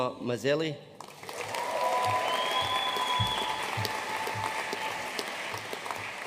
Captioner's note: audience cheering and applauding